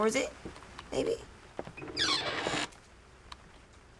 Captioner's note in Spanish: Puerta cruje abierto